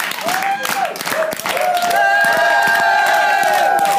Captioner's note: cheering